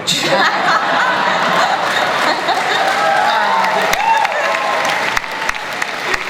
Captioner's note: laughter, cheering and applause